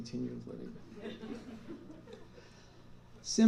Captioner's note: laughter